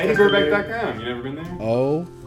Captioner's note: bell dings